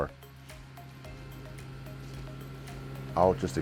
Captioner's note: engine raving